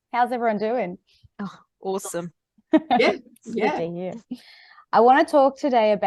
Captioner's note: sounds of agreement